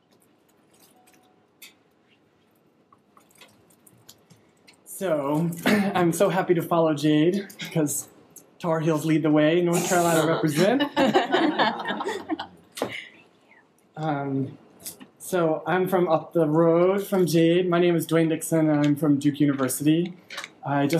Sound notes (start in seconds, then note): 9.7 people laughing